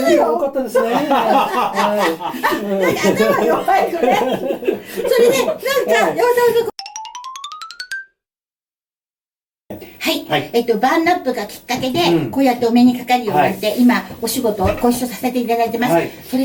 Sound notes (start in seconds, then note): 0.0 laughs; 4.3 bursts out laughing